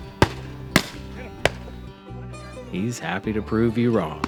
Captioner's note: gunshots